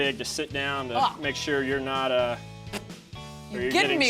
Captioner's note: spits